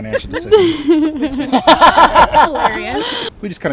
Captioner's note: laughter